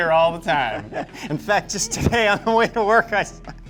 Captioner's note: laughing; laughs